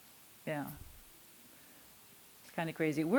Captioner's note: none